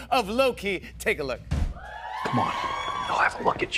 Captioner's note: cheers and applause